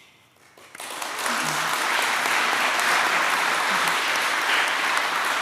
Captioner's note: applause